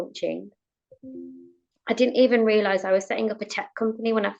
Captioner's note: device pinging